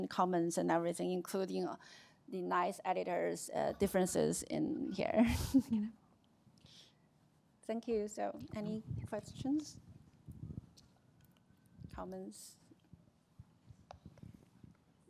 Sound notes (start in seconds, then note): 5.5 chuckles